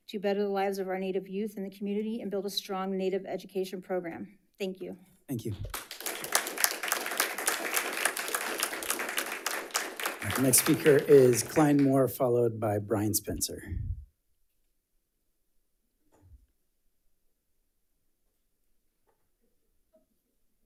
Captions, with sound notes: to better the lives of our Native youth in the community and build a strong Native education program. Thank you. - Thank you. (audience applauds) Next speaker is Klein Moore, followed by Brian Spencer.